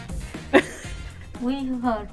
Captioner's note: laughs